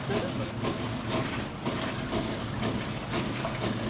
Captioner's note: tram rattling